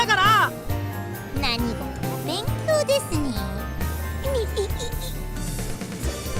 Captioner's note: snicker